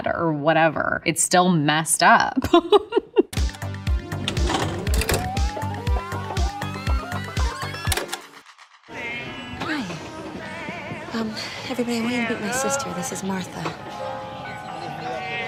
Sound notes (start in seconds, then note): 2.3 laughs; 4.1 upbeat synth music; 4.2 tape fast forwarding